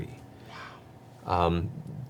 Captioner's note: quietly